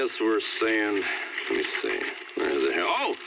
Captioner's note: paper rustles